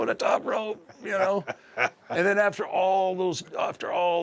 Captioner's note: laugh